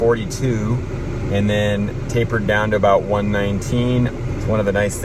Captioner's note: low-pitched hum